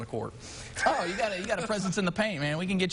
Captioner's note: laughing